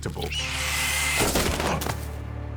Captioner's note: caws; gunfire